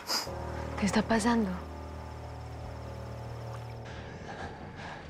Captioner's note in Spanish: Sollozo